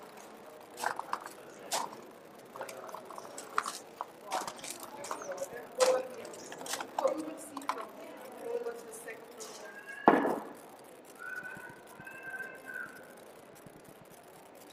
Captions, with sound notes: (gravel crunching) We will go see from (speaks faintly). (child shouting)